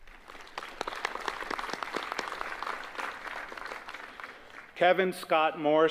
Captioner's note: applause